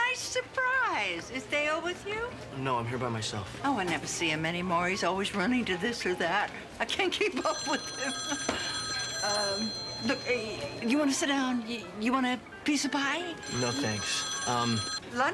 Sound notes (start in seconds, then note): 7.3 telephone ringing